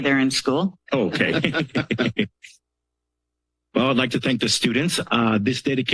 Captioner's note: laugh